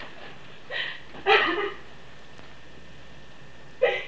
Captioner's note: sobbing